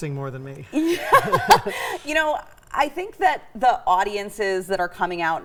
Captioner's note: laughing